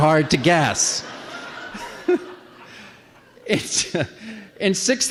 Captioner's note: laughter